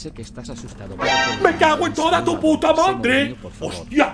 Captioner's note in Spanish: Crujido de puerta